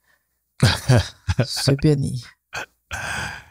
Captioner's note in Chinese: 哈哈哈